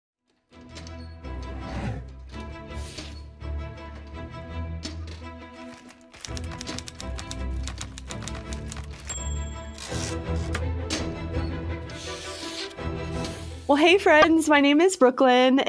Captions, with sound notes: (dramatic ambient music) (keyboard clicking) (ding) - Well, hey friends, my name is Brooklyn,